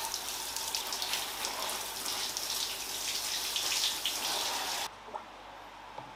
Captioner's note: shower sounds